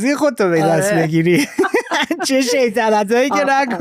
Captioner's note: laughs